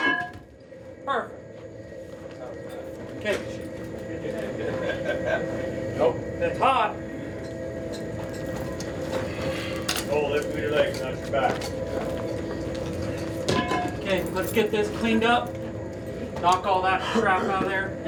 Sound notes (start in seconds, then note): 0.0 metal clangs; 4.3 miner laughs; 13.0 metal clangs